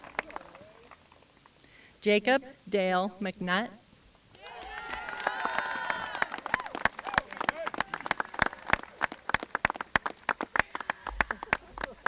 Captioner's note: applause